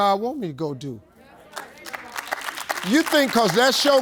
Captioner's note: audience agreeing